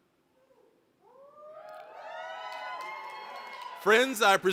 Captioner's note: applause, cheering